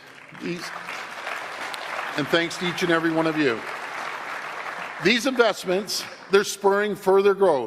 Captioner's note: applause